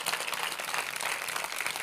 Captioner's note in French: Applaudissements